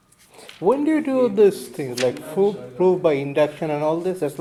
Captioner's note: voiceover